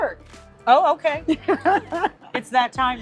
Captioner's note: laughs